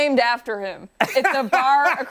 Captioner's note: laughter